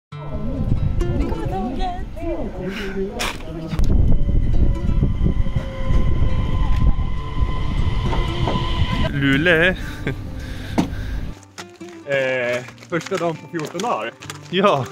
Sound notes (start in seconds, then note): 9.7 laughts